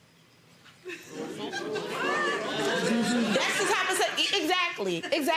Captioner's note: audiences murmurs